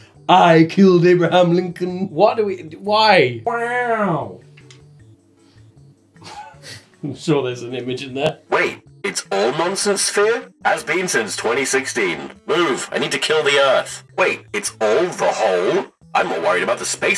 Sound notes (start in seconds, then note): 6.4 laughing; 8.6 robot voice